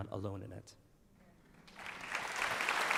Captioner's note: applause